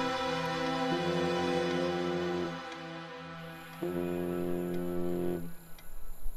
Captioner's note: Phone vibrating